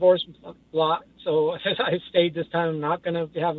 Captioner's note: laughs